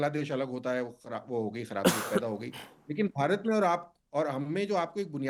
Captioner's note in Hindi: हंसी